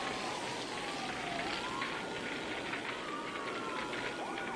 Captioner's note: sirens